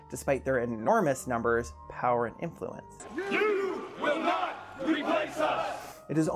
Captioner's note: chanting